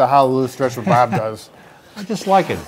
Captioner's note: laughs